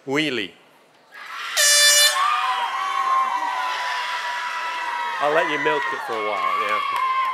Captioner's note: applause